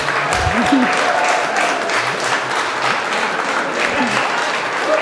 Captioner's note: audience applause